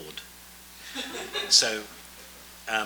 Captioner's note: audience laughs